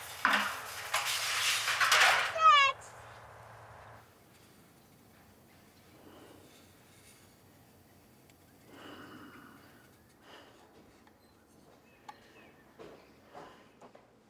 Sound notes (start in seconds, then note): 0.0 metal clatters; 8.7 Josiah sighing